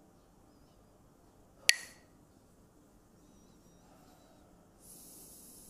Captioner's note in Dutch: klakt met stokjes